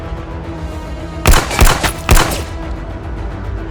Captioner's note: dramatic music; guns firing; dramatic music